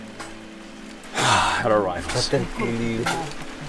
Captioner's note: sighs